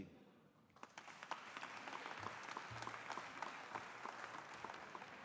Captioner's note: audience applauding